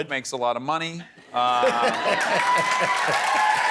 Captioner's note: audience cheering